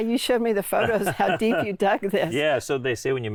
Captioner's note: laughing